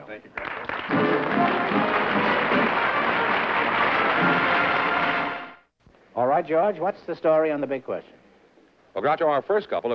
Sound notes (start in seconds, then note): 0.2 applause